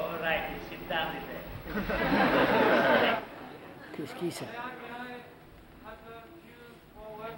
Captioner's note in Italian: risate